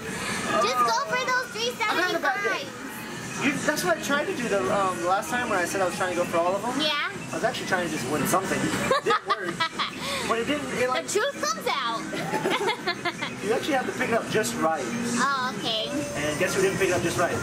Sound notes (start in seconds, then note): 12.1 laughing